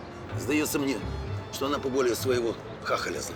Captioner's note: none